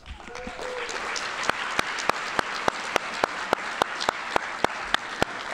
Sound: audience applauding

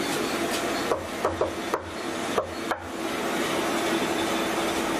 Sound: knocks on door

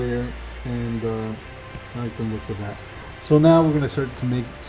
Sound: speaking faintly

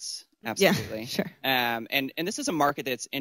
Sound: laughs

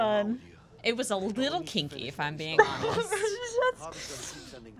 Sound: stuttering and laughing

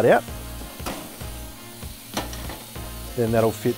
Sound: meatballs sizzling

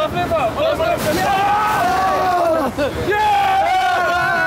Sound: all cheering

